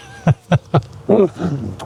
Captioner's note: laughing